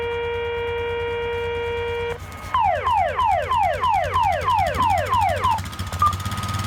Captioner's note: firefighters Emergency Tone